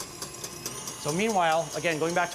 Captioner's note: whirring speeds up